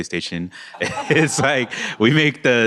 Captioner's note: laughter